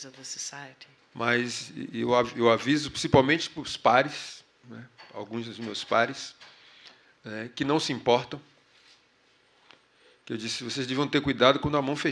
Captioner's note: speaking portuguese